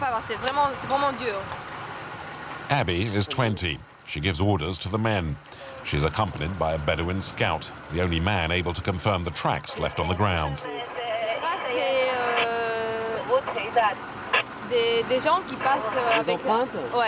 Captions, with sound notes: Abby is 20. She gives orders to the men. She's accompanied by a Bedouin scout, the only man able to confirm the tracks left on the ground. [French spoken audio]